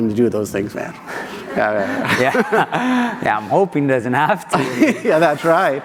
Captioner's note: laughter